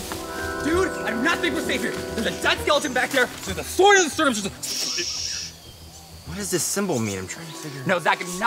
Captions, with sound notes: Dude, I do not think we're safe here. There's a dead skeleton back there. There's a sword in the cervix. - (shushing) What does this symbol mean? Tryna figure it - No, Zach, I do not think